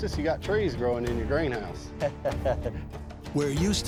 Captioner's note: chuckles